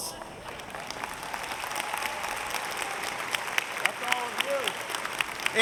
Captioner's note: audience cheering